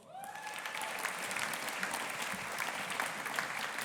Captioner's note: audience applauding